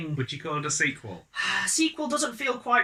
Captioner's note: sigh